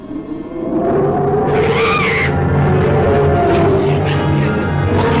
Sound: small Dove screaming

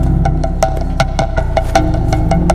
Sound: none

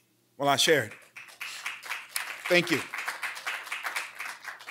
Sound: applause

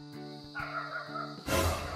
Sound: dogs barking in a distance

